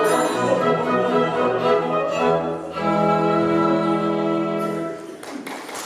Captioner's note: GAMA weeps. Music concludes